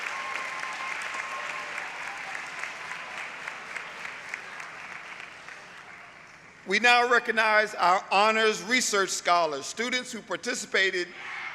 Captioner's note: applause